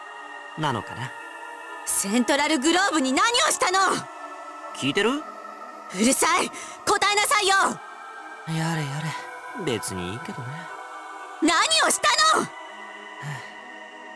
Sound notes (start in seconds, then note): 8.8 sigh; 13.2 weary sigh